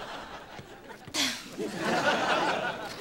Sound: sighing

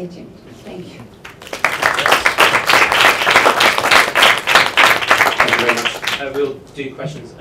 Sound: applause

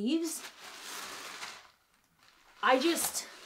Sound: bag rustling

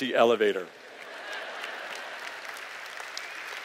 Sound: laughter

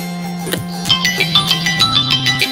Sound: phone rings again

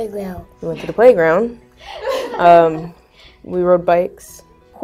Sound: laugh

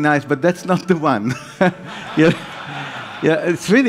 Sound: laughs

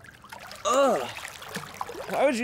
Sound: groans of digust

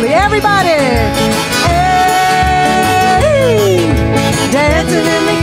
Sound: yelling

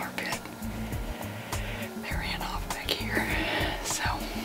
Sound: whispering

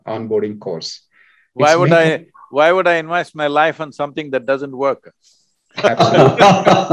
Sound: laughter

